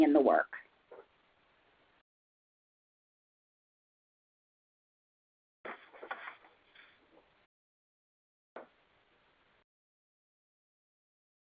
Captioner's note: silence